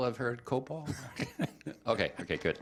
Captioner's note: chuckling